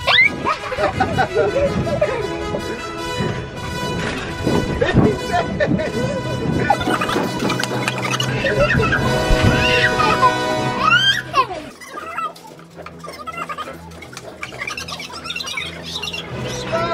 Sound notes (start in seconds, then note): 0.1 race music; 2.2 kids laughing